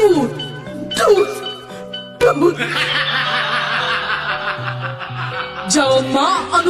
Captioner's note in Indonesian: lonceng; tertawa